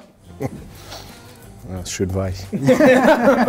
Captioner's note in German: Lachen